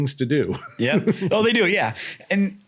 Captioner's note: laughs